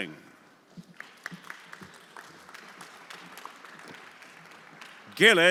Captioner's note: everyone applauding